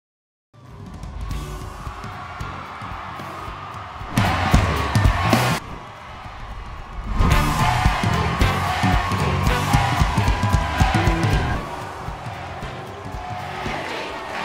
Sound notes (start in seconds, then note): 1.1 audience cheering; 4.0 upbeat music